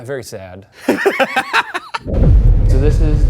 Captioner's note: laughing